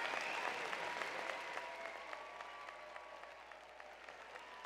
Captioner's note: cheers and applause